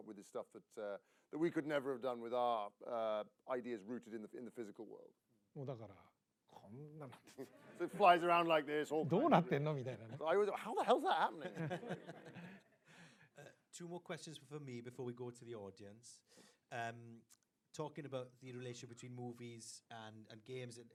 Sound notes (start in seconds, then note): 7.3 laughter; 11.8 laughter